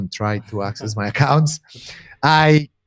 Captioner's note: chuckles